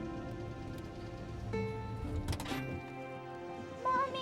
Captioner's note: engine shuts off; gearshift clicks